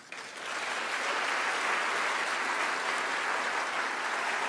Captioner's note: audience applauds